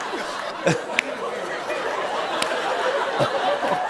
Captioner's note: laughter; laughter continues